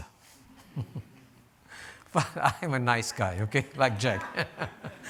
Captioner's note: laughs